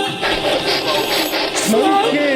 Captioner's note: walkie talkie crackling